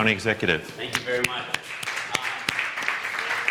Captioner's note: applause